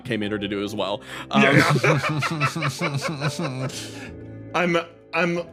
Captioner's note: laughs